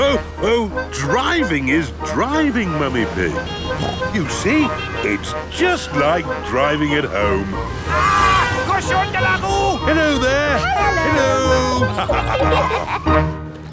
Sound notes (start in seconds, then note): 8.4 yells; 11.6 laughter